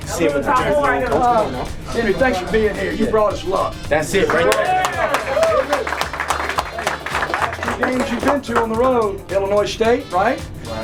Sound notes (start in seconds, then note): 5.9 cheers